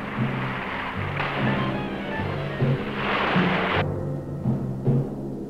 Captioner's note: water splashing